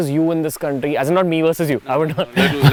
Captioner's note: laughs